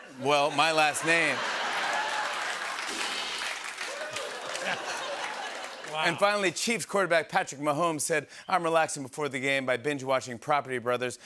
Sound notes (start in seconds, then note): 0.5 laughter, cheering, and applause; 2.7 rimshot; 4.2 laughter